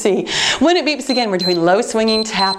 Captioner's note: timer beeps